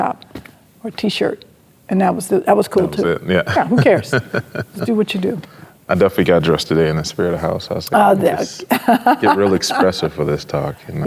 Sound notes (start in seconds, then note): 3.5 chuckles; 8.5 laughing